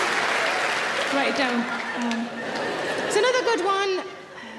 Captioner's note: audience laughing